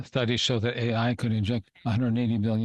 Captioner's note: speaking French